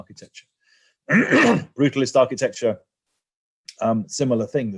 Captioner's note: cough